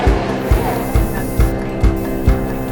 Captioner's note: hiss of air